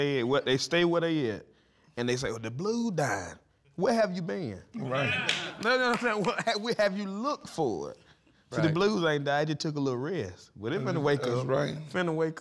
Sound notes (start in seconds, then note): 5.1 claps from audience